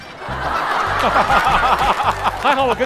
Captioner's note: hahaha